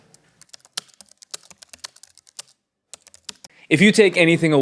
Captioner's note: typing on a keyboard